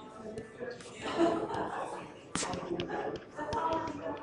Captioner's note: stylus taps